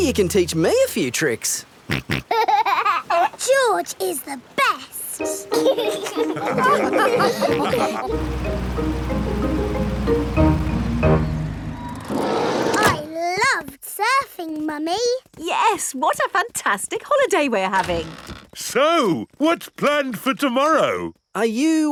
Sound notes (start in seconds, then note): 1.9 snorts and laughs; 5.4 all laugh